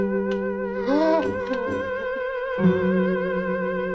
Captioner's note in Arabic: يتنهد